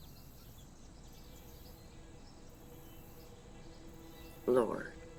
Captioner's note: birds chirping; quiet music